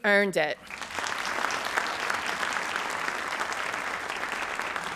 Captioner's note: audience applauds